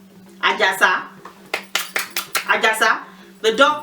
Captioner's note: lapping hands